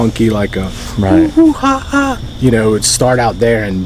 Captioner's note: imitating monkey sound